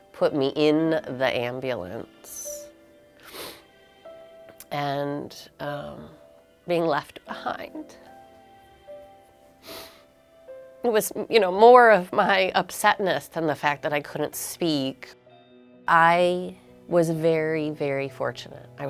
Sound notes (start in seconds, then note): 3.2 sniffs; 9.6 sniffs